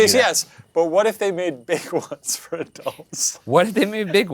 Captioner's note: laughs